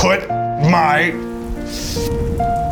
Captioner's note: in puppet voice